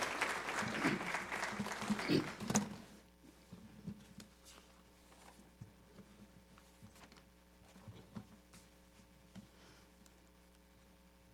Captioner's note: applause